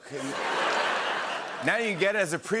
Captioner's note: laughter and applause